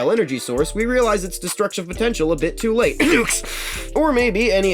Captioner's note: cough speak under breath